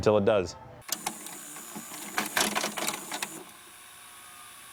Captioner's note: vhs tape enters vcr